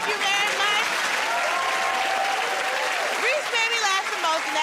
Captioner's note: cheers and applause